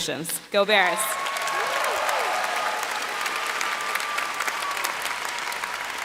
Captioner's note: applause